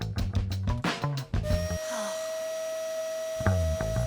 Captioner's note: vacuum whirring